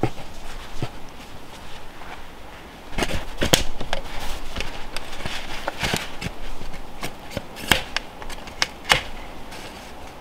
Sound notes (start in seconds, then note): 3.2 knife scraping